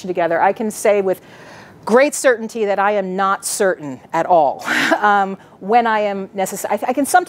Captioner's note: laughs